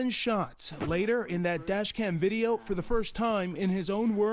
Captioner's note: gunshots